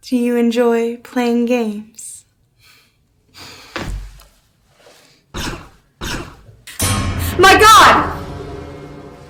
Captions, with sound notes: - Do you enjoy playing games? (gun firing) - My God.